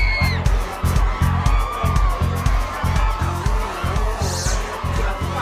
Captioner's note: crowd screaming; woman screaming